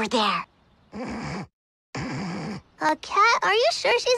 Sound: snoring

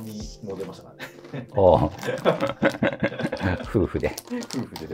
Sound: laughing

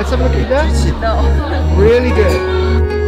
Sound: foreign language

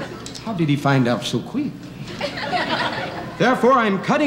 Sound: audience laughing

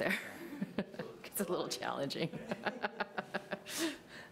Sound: laughs

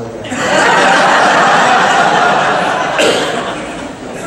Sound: audience laughs

